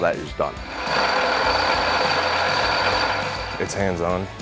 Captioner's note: machine running